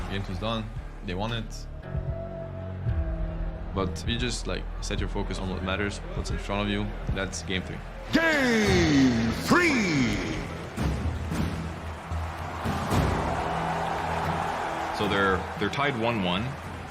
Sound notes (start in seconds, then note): 10.9 upbeat music playing; 12.8 crowd cheering